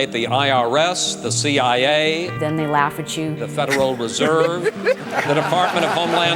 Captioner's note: laughs from candidates